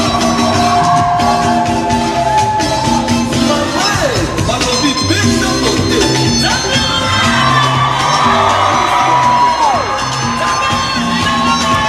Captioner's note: cheering